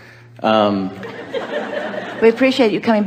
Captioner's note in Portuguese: A platéia ri